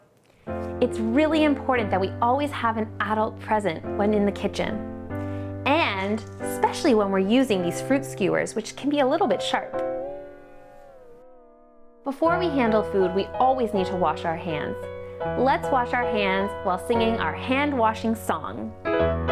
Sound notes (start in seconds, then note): 9.8 cartoon ouch